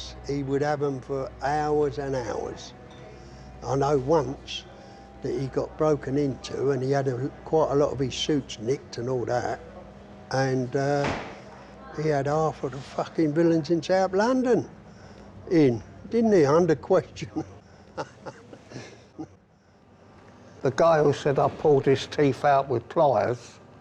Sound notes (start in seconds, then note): 17.8 laughs